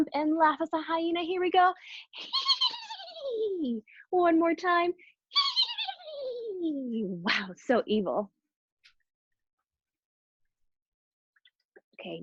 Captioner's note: hehehehe